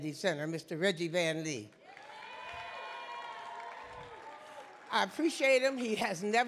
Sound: audience cheering

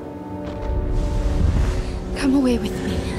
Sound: dramatic music; explosions boom

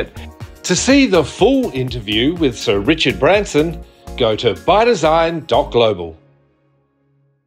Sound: voiceover

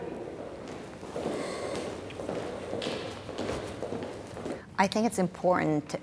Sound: footfalls thud loudly

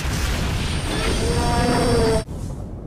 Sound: roars in pain

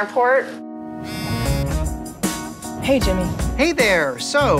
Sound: cell phone vibrates

